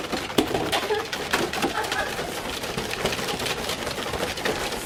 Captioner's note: loud whisking continues